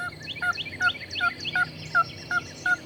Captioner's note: turkey calling